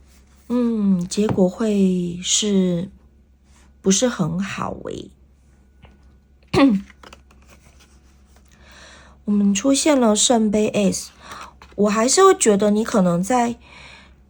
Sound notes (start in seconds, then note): 8.4 reversed